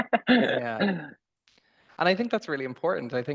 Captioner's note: laughter